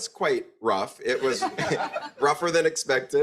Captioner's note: group laughs